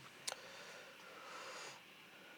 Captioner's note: exhales